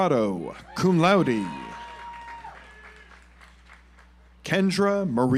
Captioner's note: audience applauds